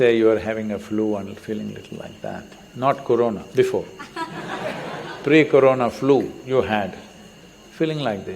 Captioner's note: laughter